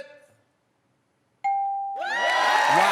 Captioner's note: ding